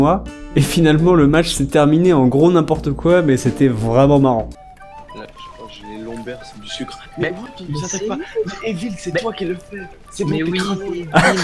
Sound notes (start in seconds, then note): 4.6 chatting